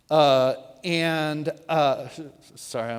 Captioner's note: whispers; speaks louder